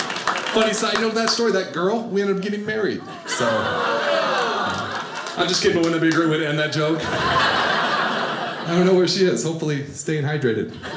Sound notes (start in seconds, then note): 7.1 audience laughing